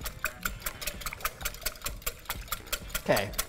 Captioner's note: whisk swishes